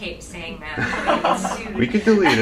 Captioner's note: laughing